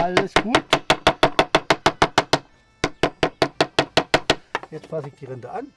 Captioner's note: knocking sound